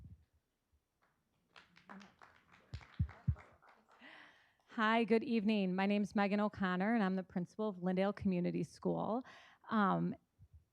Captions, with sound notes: (group clapping) - Hi, good evening. My name's Meghan O'Connor, and I'm the Principal of Lyndale Community School.